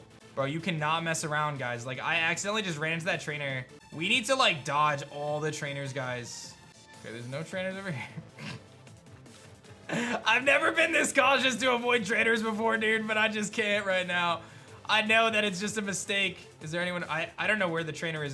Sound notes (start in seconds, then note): 8.6 giggles